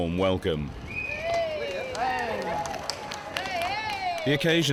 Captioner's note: crowd cheering